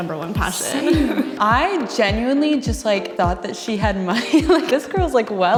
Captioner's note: laughs